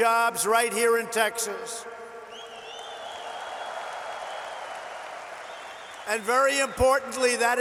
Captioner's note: applause